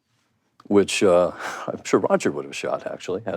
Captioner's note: laughs